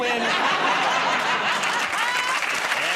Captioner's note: applause